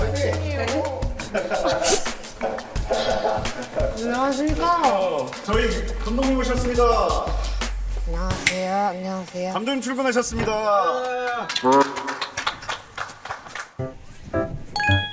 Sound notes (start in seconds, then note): 0.9 someone arrives to cheers